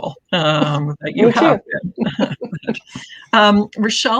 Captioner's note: laughing